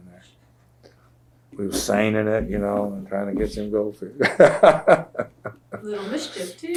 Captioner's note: laughs